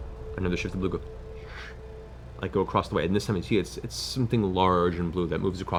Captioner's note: whoosh